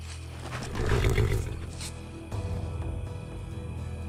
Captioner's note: horse whickers nervously